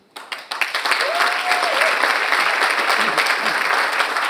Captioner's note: audience applauds